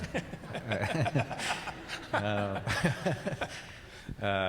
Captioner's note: laughing